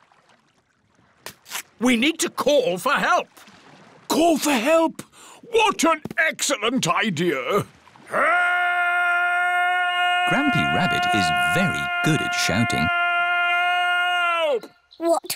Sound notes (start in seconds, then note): 8.5 shouting